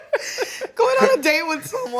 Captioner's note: both laughs